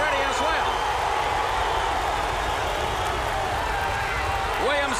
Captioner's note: crowd cheering